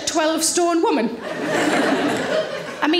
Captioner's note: audience laughing